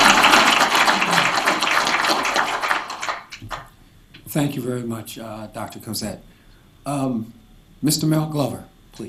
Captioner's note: applause